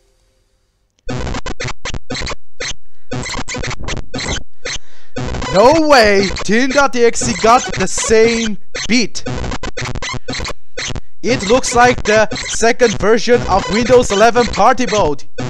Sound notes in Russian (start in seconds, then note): 1.0 Начинается шумный праздник